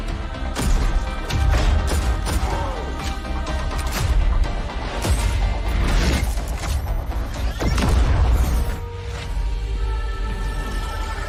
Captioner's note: trailer music; boom